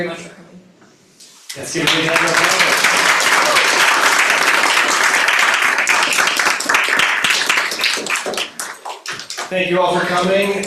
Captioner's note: applause